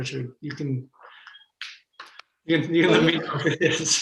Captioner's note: laughs